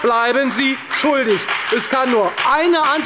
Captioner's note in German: Beifall bei der FDP